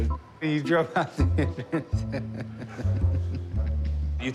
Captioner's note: laughs